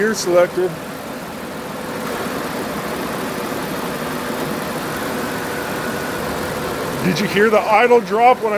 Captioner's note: engine idle drops